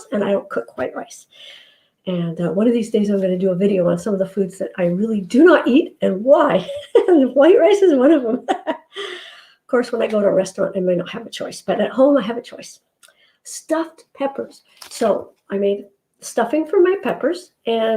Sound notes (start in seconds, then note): 8.2 laughs